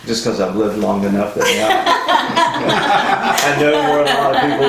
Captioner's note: all laughing